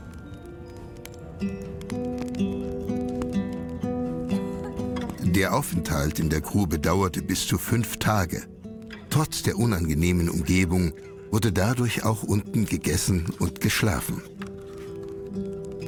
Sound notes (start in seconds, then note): 1.0 fire crackles